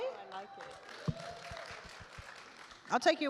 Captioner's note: attendees applaud